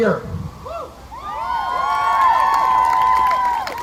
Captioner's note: crowd cheering